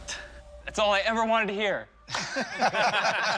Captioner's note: laughter